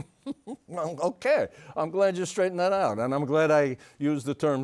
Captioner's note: laughs